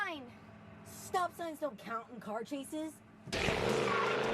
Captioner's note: tires squealing